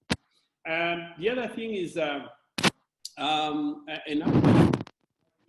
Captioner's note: distortion